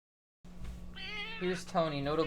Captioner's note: cat meowing